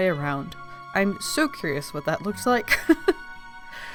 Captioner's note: laughs